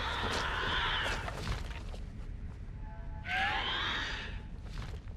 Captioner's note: creatures screeching